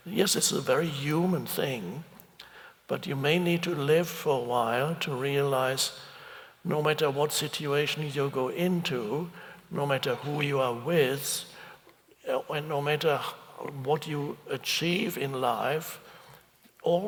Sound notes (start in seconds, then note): none